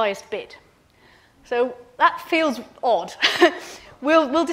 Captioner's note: chuckles